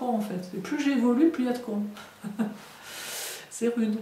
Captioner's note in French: rires